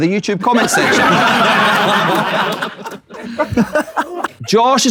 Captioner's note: people in room laughing